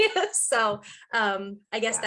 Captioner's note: laughing